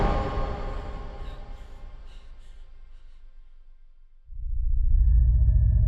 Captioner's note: Paula breathing heavily